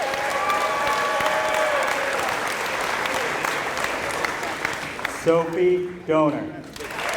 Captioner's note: applause